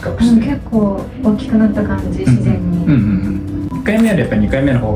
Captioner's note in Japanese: 咳払い